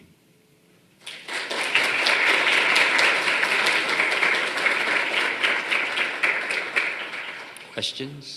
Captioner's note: applause